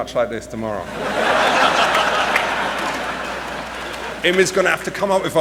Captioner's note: laughter